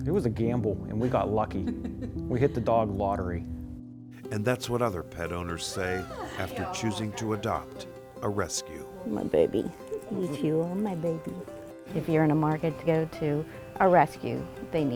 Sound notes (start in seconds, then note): 1.7 laughing; 8.0 cheery music